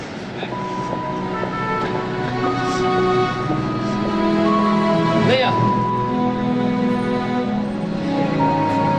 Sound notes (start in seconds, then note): 0.2 soft music playing; 0.6 footsteps leaving; 1.3 traffic noise